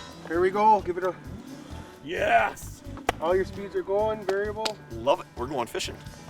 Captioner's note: clapping